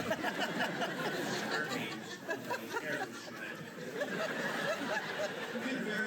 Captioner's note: laughter